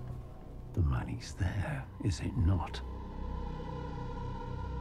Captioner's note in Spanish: En voz profunda